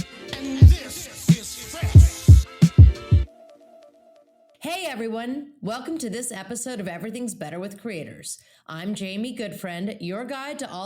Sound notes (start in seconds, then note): 3.4 tone chiming